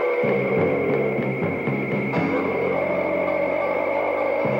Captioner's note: dinosaur roaring